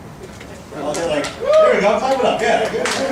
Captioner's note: audience clapping